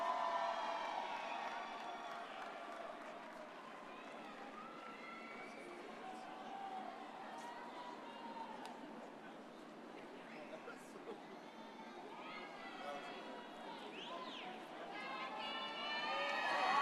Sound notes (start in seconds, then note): 0.0 audience cheers